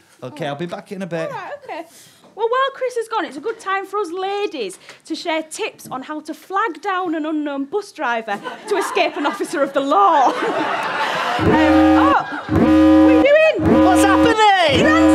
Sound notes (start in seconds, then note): 10.3 audience laughter; 11.4 siren